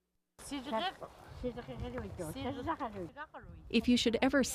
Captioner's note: residents talking